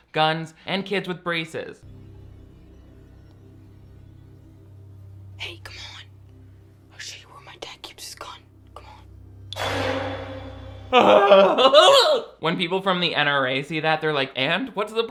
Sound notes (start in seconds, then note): 2.1 eerie music; 9.9 eerie music; 10.8 yells; 10.9 groans